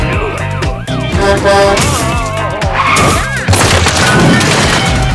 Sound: honking; crashing

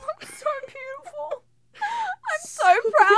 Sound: laughter

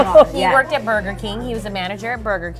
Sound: laughs

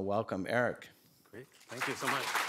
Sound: applause

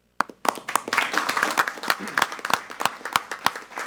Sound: clapping loudly

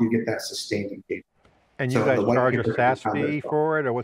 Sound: audio distorts

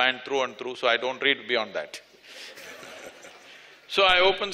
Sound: laughter

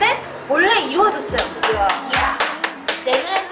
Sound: clap clap clap clap

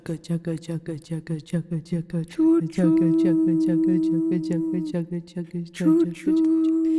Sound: making train noises

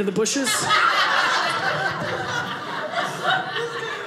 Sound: audience laughing

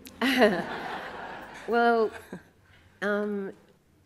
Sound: audience laughs

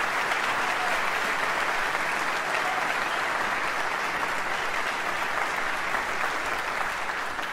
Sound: cheering

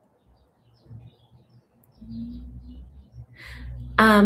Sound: birds chirping

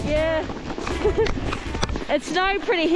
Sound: giggle

